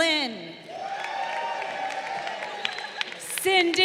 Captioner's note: crowd cheering